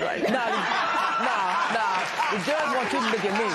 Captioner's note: laughter